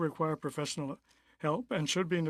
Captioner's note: speaking French